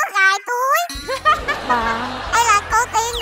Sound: laughing

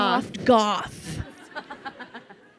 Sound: laughing

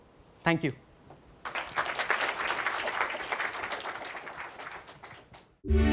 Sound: applause

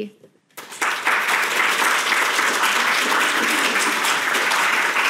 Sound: audience applauds

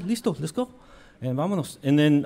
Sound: speaks in foreign language

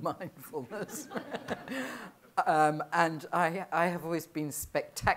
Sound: laughter

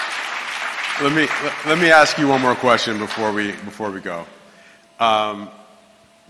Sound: applause

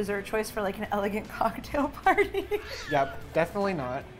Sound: laughs

